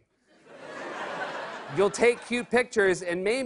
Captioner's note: laughter